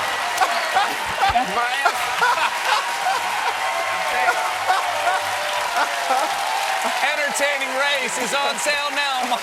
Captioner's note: cheers and applause; laughing